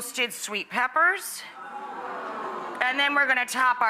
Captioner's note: audience oohs